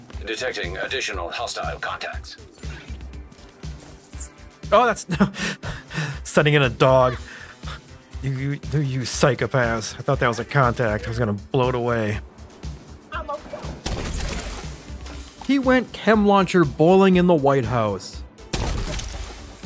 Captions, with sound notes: - ISAAC Detecting additional hostile contacts. Oh, that's... (laughs) Sending in a dog. You, you psychopaths. I thought that was a contact. I was gonna blow it away. He went Chem Launcher Bowling in the White House.